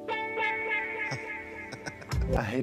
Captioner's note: laughs